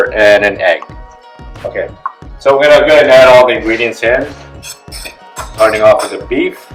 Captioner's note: fork scraping; plate clatters